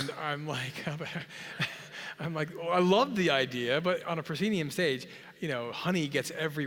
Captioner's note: laugh